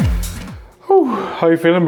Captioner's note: exhales aloud